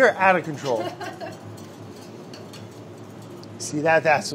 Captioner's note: laughter